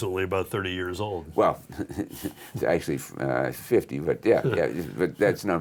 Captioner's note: laughs